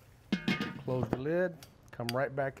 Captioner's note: metal thudding